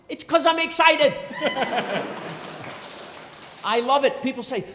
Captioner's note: crowd clapping & cheering